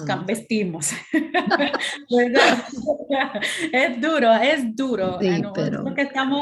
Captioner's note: laughter